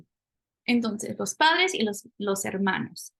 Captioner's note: spanish